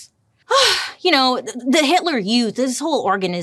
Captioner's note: sighs